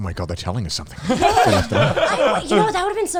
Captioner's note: guys laughing